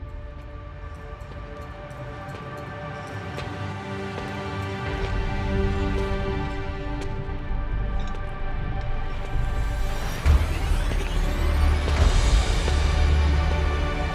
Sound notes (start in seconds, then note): 3.2 footsteps approaching; 6.9 intense music